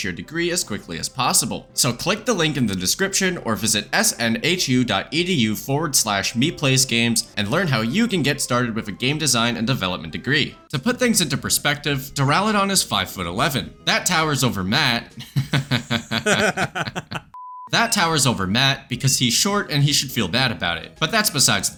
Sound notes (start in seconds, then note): 17.6 both laugh